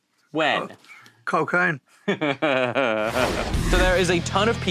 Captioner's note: Jack laughs